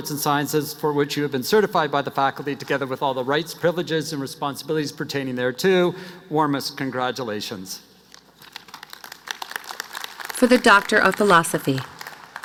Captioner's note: applause